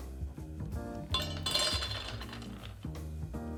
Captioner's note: peanuts dropping